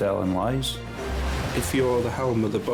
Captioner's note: waves crashing